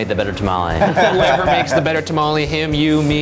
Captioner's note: laughing loudly